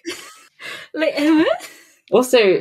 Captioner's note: confused noise